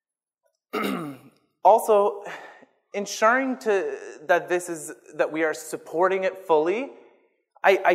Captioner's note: clears throat